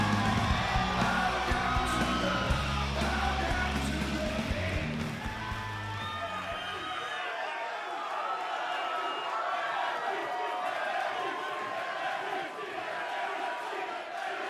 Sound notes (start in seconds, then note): 10.5 cheers & applause; 13.6 fans chanting